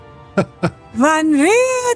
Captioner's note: speaking in foreign language